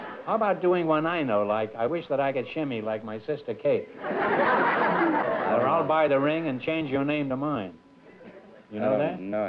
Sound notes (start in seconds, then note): 0.0 laughter; 3.9 laughter